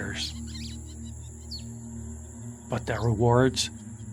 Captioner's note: birds chirping